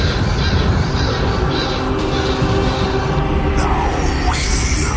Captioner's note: chanting